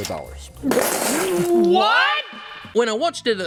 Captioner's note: together spits drinks, yells